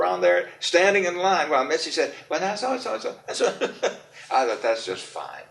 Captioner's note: laughs